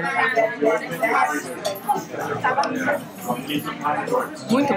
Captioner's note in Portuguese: ambiência de restaurante